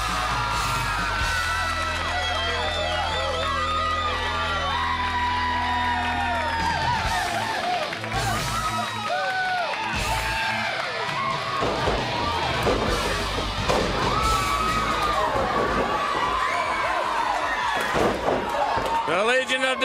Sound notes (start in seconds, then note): 4.7 crowd cheering